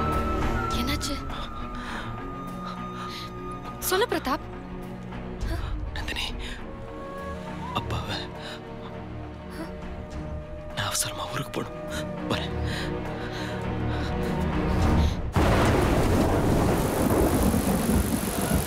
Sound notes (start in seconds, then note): 15.3 raining with thunder